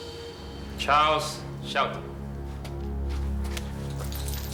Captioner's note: speaking vietnamese